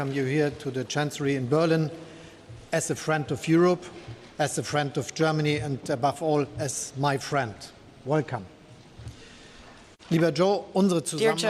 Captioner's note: speaks German